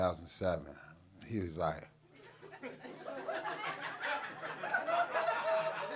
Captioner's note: audience laughing